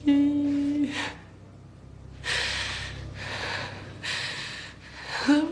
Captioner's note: breathing shakily